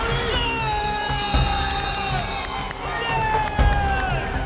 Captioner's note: players Cheering; players continue to cheer